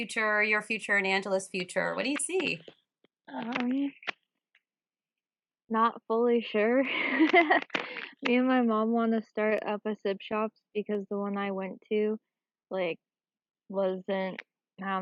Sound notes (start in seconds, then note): 6.9 chuckles